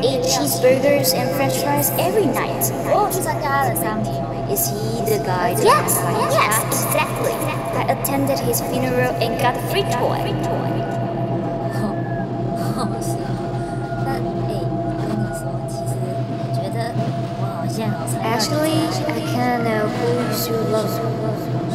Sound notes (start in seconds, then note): 11.0 ethereal droning sound; 12.6 disembodied voices chatter